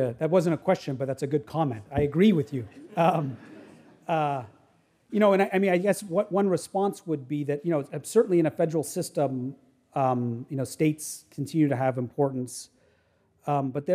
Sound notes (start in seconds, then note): 2.6 audience laughing